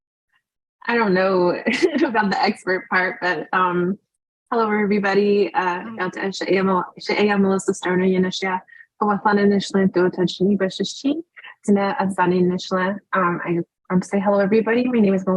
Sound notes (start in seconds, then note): 6.0 speaking Native language